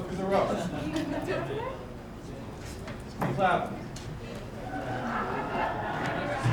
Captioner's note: jurors drowned out by crowd laughing in back